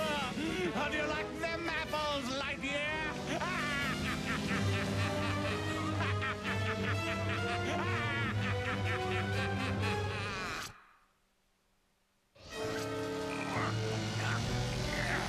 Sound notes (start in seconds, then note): 0.2 laughing; 3.0 evil laugh